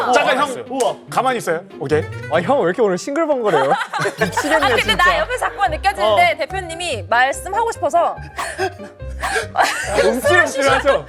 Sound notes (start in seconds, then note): 9.1 gasp